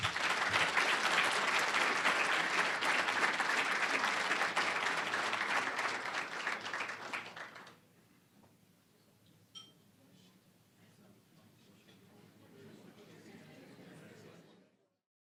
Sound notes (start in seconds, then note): 0.0 applause; 11.3 general chatter